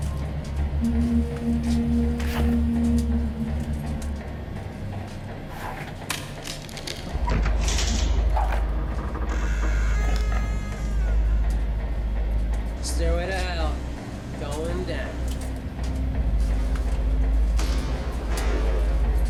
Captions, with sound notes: (puerta cruje) - La escalera al infierno, va hacia abajo. (ominosa de la música)